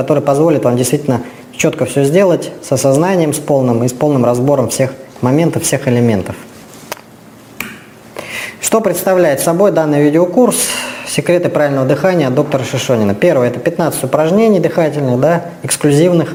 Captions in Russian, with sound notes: который позволит вам действительно чётко всё сделать с осознанием, с полным и с полным разбором всех моментов, всех элементов. [откашливается] Что представляет собой данный видеокурс? Секреты правильного дыхания от доктора Шишонина. Первое - это 15 упражнений дыхательных, да, эксклюзивных,